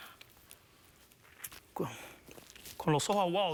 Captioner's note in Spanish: ahoga los sollozos